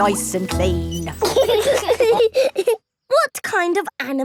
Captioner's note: laughing